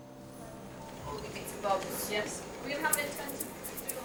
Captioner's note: people chattering